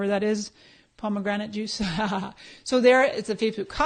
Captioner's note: laughs